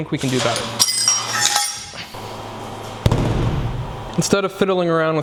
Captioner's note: metal clanking